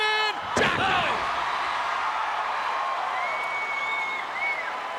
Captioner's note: crowd cheering